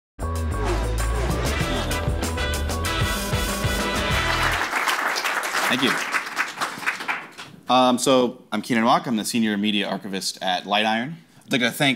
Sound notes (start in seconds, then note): 0.2 upbeat music; 3.5 audience applauds